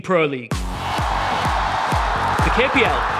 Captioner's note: crowd cheering